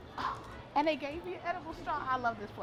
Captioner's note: gasps